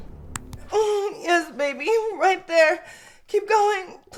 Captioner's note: moaning